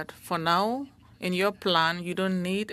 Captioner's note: speaking French